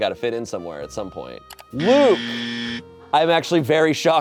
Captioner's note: buzzer blares